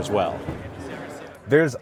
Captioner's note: crowd chattering indistinctly